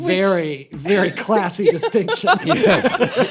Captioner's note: laughter